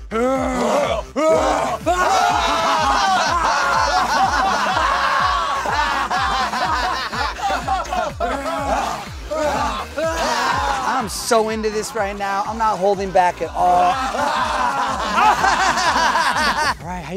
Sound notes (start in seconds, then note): 0.0 grunting; 2.3 laughing; 9.2 grunting; 10.7 laughing; 13.0 laughing